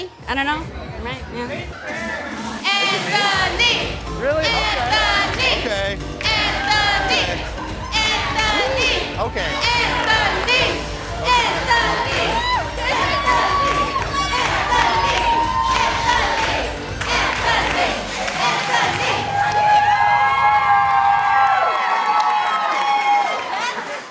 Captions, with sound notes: I don't know. [chanting "Anthony"] -Is it me? Really? Okay. [chanting "Anthony"] [cheering]